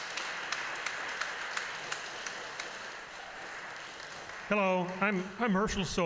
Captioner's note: applause